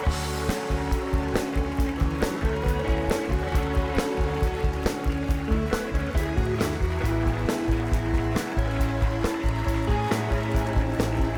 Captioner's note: cheers and applause